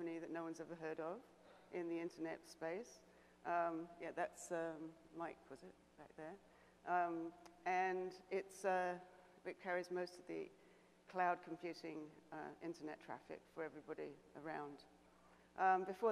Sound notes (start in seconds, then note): none